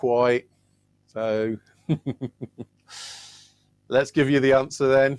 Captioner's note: laughs